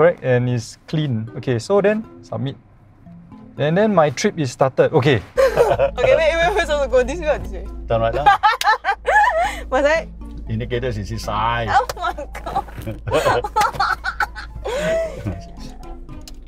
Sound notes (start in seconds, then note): 5.4 laughs; 8.2 laughs; 11.9 laughs